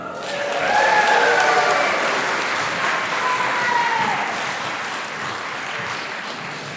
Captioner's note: applause and cheering